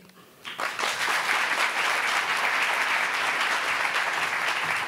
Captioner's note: applauding